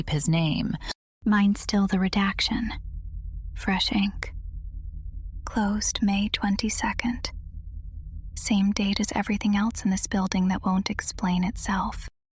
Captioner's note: whispers